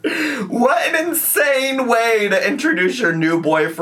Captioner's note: gasping